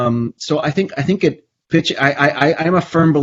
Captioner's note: stammers